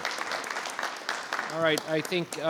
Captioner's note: audience applauding